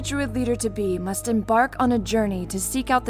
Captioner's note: none